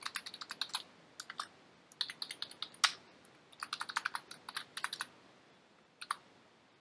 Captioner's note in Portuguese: typing